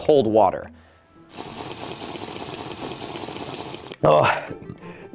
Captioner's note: Minecraft slurping noises